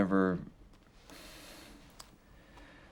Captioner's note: sighs